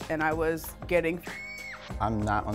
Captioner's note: scream